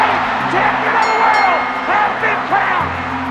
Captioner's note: bell rings